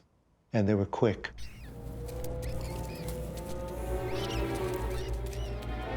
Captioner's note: rat squeaking